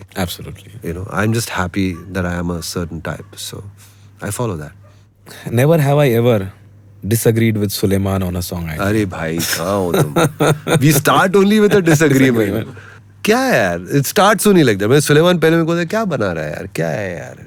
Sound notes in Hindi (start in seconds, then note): 9.4 हंसी